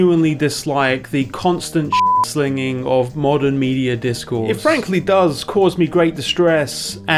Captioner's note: beep